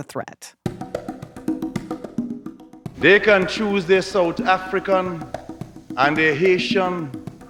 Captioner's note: soundbite of archived recording